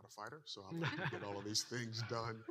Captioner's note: participants laughing